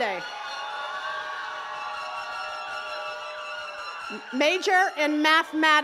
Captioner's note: attendees cheering and clapping